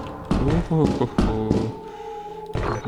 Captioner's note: humming a tune